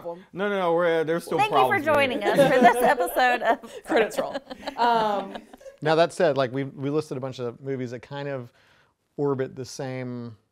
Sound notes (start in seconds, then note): 2.1 laughs